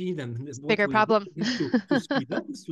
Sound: laughs

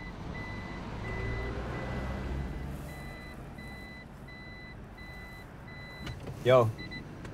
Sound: car reversing beeping

